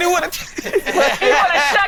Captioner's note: all laughing; laughs